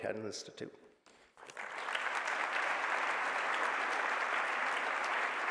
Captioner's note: applause